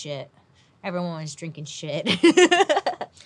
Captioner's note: laughs